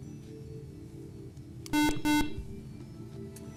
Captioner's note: beeping